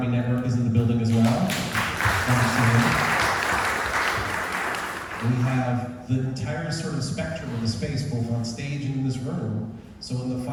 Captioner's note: audience applause